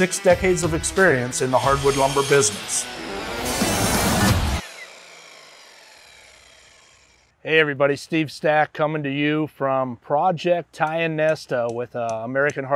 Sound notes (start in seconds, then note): 3.8 saw whirring; 3.8 upbeat music